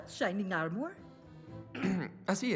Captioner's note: ahem